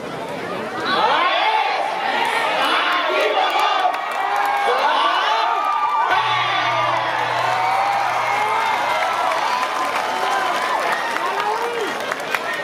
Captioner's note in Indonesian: Tepuk tangan